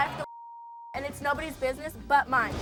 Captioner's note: beep